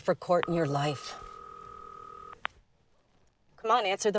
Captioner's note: phone ringing